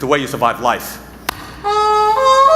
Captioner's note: fists slapping